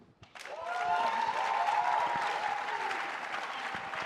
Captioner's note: audience applauds